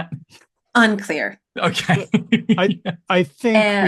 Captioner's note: laughs